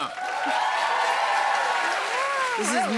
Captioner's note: cheers and applause